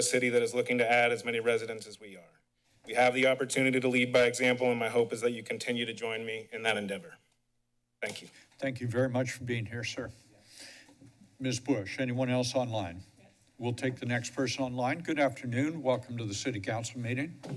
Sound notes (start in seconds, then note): 10.4 pause